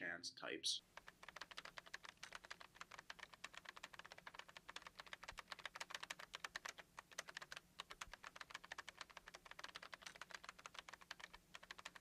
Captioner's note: typing